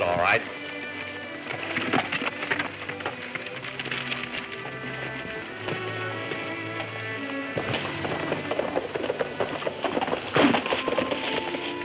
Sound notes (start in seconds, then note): 0.1 ominous music playing; 7.3 horses galloping